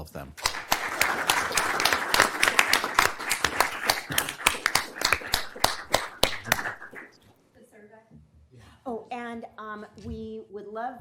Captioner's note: applause